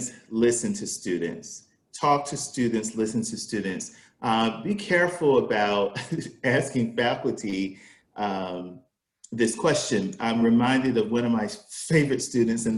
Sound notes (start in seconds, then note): 6.2 laughs